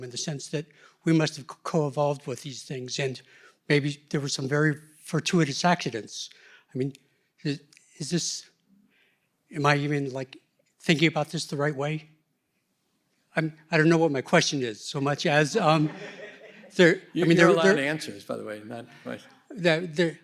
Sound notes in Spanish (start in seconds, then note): 15.5 risas